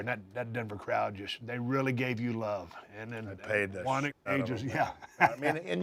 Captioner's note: laugh